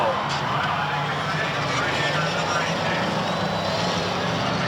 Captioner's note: engines roar